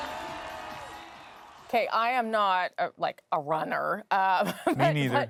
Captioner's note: cheers and Applause